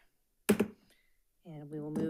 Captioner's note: gavel clacks